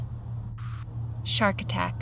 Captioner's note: static crackles